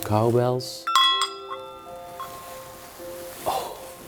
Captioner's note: ringing the bells